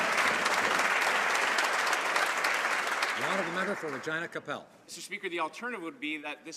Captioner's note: some Applause